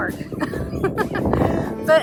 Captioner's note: giggles